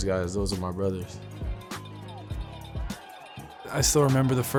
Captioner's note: cheering